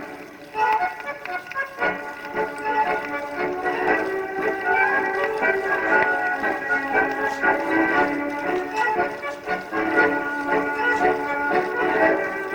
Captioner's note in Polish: Aplauz